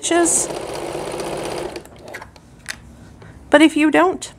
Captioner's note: sewing machine rattles